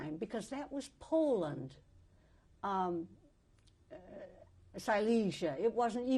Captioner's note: pauses for 3 seconds